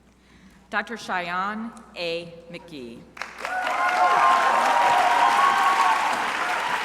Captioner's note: crowd applauding